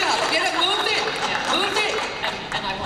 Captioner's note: laughter; applause